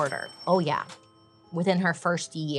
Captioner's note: cash register dings